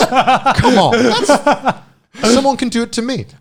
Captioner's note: laughing